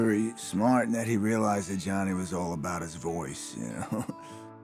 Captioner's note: chuckles